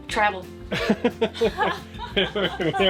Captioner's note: both laughing